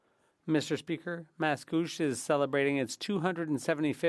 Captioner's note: speaking French